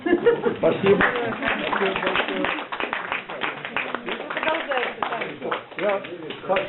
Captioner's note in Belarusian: апладысменты